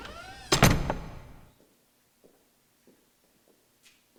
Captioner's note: door banging